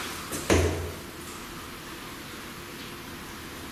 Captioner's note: knocking